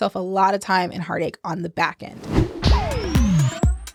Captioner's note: whooshing; upbeat music